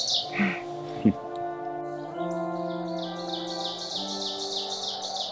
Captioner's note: birds chirping; wind howling